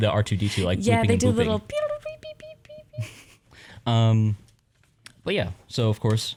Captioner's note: makes beeping sounds